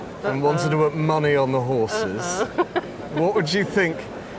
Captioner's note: laughs